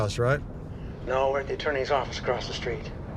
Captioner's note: on phone